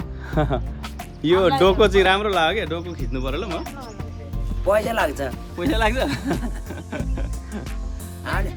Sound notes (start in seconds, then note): 6.0 laughter